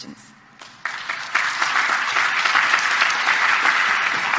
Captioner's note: clapping